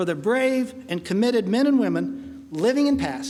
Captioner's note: none